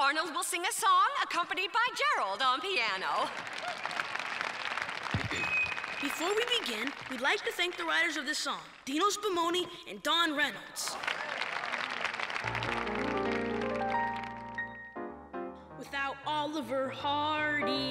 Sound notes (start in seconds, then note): 4.8 applause; 10.8 applause